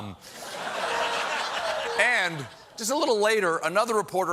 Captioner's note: laughter